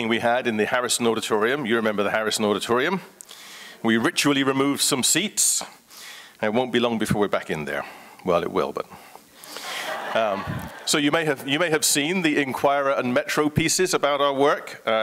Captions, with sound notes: we had in the Harrison Auditorium, you remember the Harrison Auditorium, we ritually remove some seats, and won't be long before we're back in there. Well, it will, but... *Crowd laughs* So you may have, you may have seen The Inquirer and Metro pieces about our work.